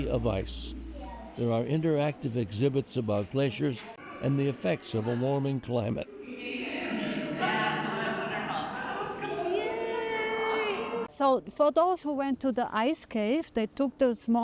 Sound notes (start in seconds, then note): 7.0 laughter